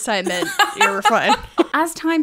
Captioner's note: laughing